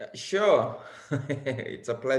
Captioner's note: laughs